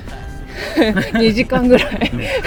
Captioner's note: laughs